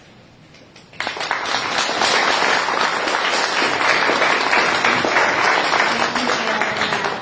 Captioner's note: applause